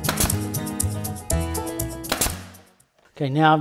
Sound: nail gun shooting

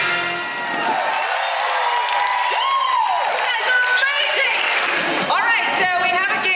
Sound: applause

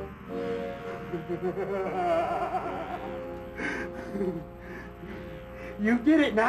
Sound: evil laughter

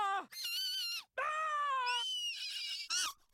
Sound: shrieks; louder shriek

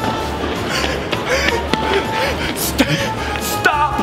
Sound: security guard gasps

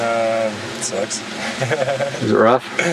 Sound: laughs

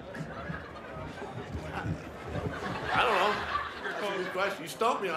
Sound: laughter

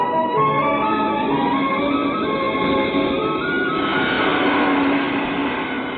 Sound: train rumbling

